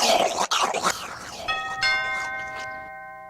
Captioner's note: grapefruit technique noises; doorbell rings